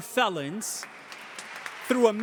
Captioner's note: audience applauding